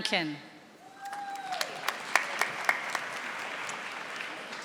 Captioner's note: audience applauding